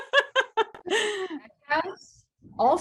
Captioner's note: chuckles; laughs